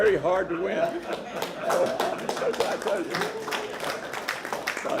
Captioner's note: laughter